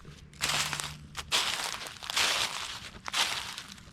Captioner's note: leaves crunching